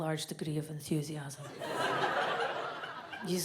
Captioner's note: audience laughs